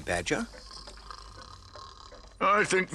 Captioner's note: snoring continues